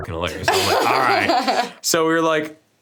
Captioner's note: laughs